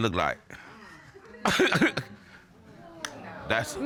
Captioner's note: chuckles